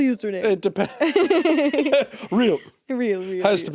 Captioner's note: laughing